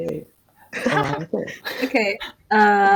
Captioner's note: laughs